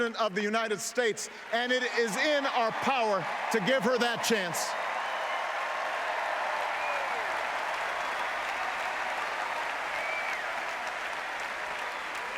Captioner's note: applause